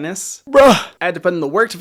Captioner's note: groans